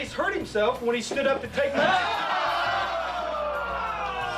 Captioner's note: men shout